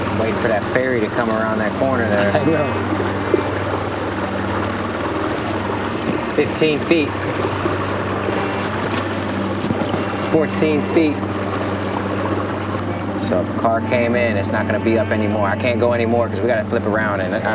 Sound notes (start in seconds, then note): 2.0 laughing; 6.3 water splashing